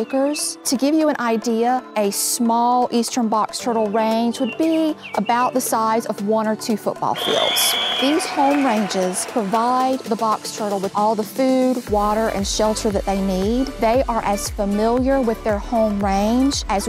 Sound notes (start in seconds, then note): 7.1 whistle blowing; 7.2 audience cheering